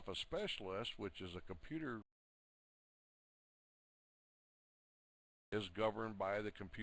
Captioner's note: audio drops